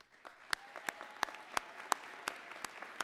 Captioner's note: applause